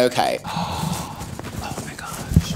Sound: gasps

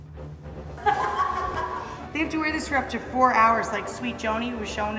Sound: laughing

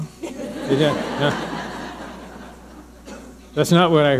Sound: audience laughing

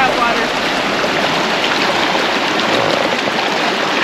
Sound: babbling brook

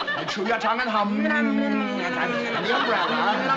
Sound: both humming

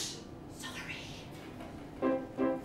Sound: whisper

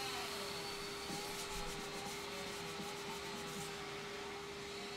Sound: sandpaper scratching, buzzing continues

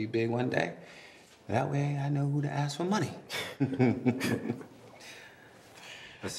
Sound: laughing

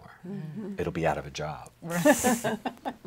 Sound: laughs

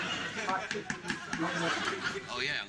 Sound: audience laughing; man knocking

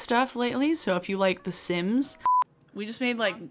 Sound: screen beeping

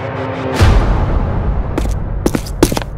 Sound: spooky jumpcut sound; footsteps

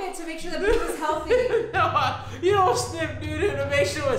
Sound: laughing

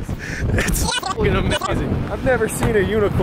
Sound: beep

